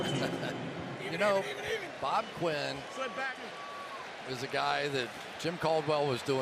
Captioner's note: laughs